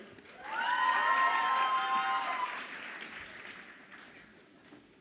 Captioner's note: audience applauds and cheers